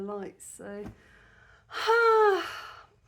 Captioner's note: deep sigh